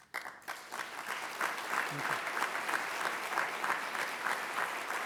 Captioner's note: applause